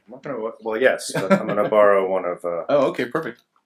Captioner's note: laughs